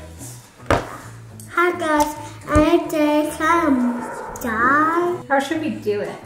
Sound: babbling

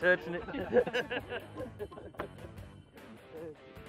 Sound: laughs

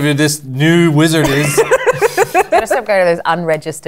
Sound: laughter

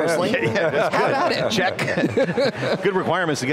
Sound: laugh loudly

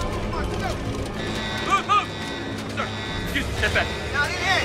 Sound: alarms blaring

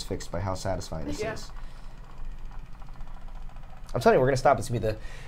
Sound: machine rattles

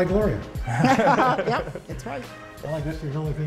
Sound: laughter

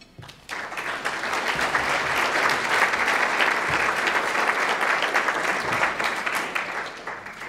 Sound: applause

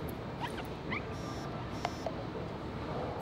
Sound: phone buzzes

